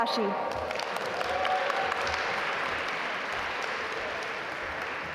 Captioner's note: audience applaud